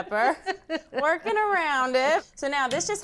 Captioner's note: laughs